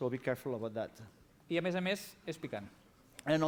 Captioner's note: non-english speech